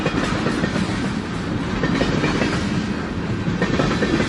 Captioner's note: train is passing